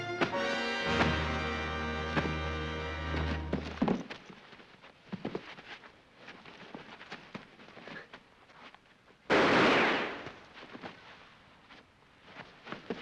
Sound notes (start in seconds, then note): 0.0 dramatic music; 0.2 thump thump; 3.2 thump & bodies tumble; 4.5 sounds of struggling; 9.3 gunshot